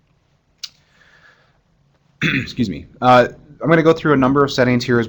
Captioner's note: cough